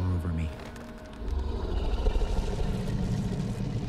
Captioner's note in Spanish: Gruñendo